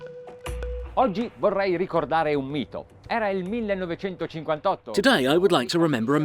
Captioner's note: speaking in foreign language